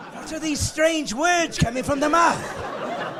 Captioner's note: laughing